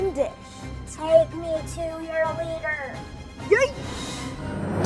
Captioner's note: alien voice; intense music